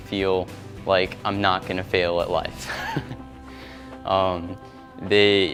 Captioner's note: laugh